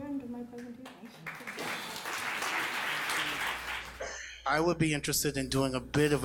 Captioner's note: audience applauding